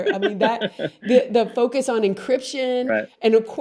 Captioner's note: laughs